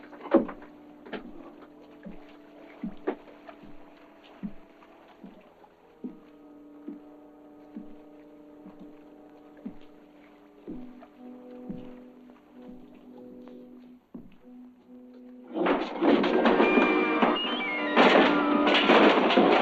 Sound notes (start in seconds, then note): 0.2 Boyle's footsteps; 9.6 Boyle's footsteps approaching; 15.5 crashing and thudding